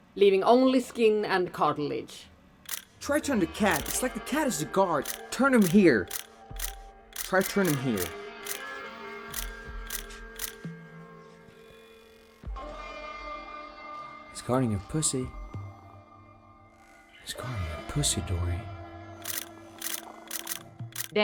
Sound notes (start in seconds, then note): 3.6 shutter clicking; 7.1 shutter clicking; 8.1 eerie music; 19.7 shutter clicking